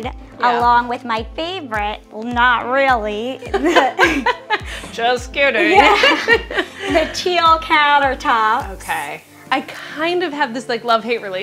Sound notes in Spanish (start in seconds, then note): 3.5 ambas riendo